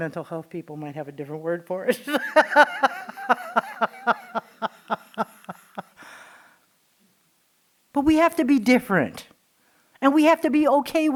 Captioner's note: laughing